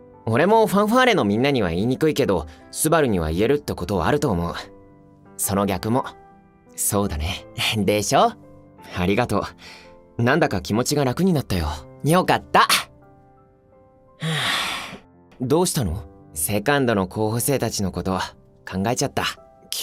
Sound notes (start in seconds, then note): 14.2 sigh